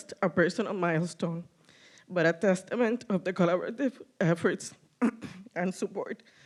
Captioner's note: cough